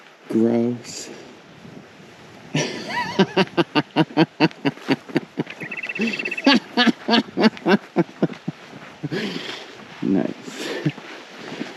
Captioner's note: laughing